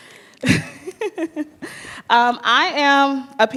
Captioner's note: giggles